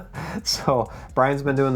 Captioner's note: laughs